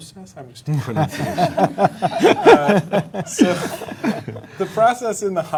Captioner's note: panelists laughing